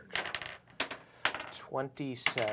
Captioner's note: dice rolls